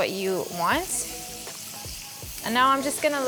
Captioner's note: mixture sizzles